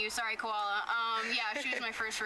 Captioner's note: laughs